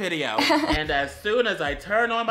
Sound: laughing transition

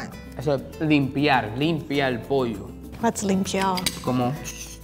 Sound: speaking in foreign language

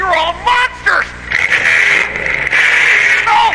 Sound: revving engine, engine sticks

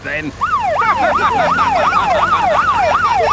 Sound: siren wailing; laughing

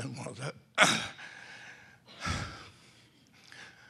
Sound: throat clearing

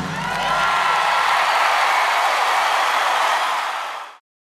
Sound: crowd cheering

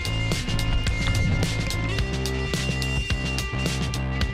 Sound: water bubbling

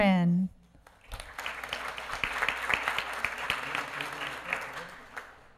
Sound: applause

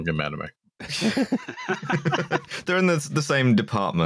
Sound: laughter

